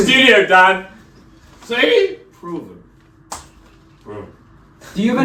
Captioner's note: scoffs